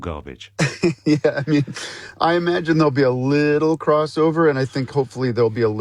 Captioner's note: laughs